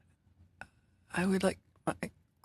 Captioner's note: speaking French